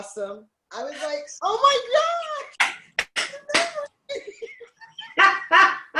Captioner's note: laughs